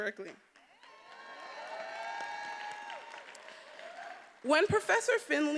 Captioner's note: attendees applauding and cheering